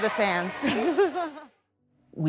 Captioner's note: laughs